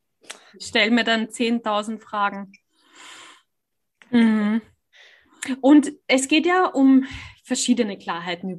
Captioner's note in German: seuzft